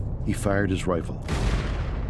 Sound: gun shooting

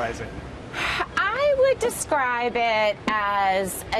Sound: exhales

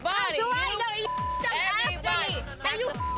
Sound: beep; beep

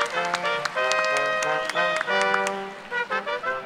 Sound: cheers and applause

